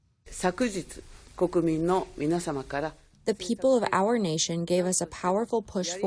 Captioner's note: through translator